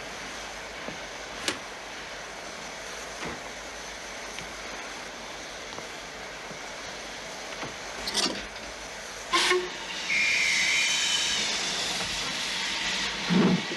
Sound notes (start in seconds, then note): 10.0 whistle blows